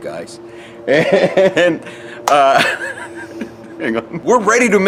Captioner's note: laughter